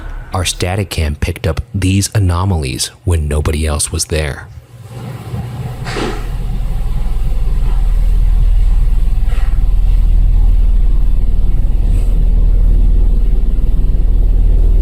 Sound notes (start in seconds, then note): 5.5 door thudding; 11.3 ominous ambient music